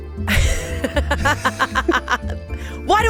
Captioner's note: laughs